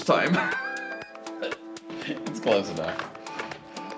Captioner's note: chuckling